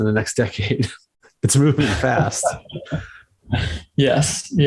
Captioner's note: host laughs; laughs